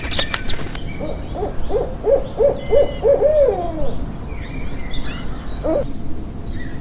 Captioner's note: birds chirping; wings fluttering; birds chirping; owl hooting